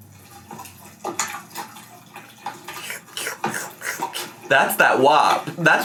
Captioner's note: food squishing